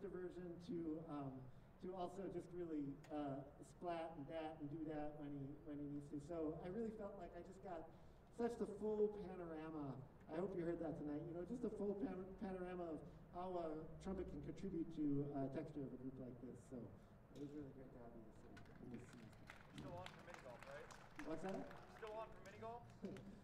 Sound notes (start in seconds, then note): 16.8 applause